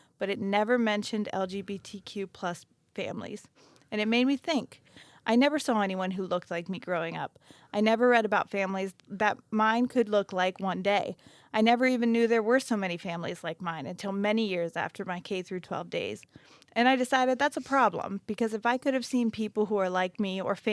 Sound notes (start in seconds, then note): none